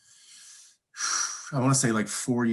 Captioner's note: sighing